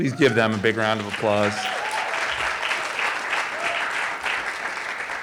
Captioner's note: audience applauding